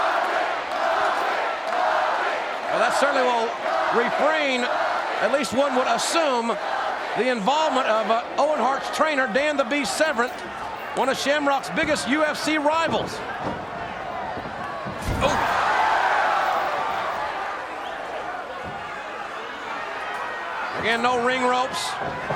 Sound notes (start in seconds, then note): 0.2 crowd chanting; 15.0 body thuds; 15.0 crowd cheers